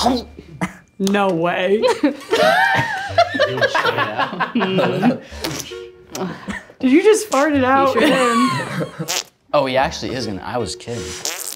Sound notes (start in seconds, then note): 1.9 audience laughs; 5.4 makes farting sounds; 11.0 makes farting sounds